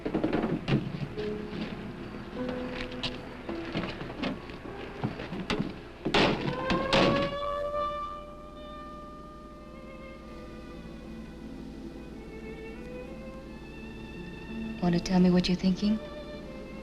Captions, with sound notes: (doors slamming) (siren wailing) (soft orchestral music) - Wanna tell me what you're thinking?